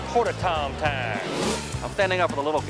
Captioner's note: image whooshes